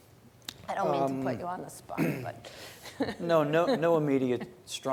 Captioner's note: laughs